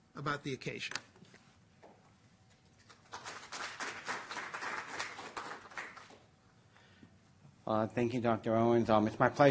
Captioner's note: applause